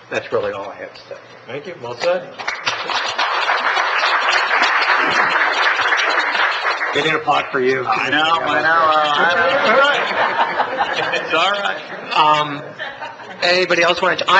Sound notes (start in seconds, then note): 2.4 applause; 9.5 laughs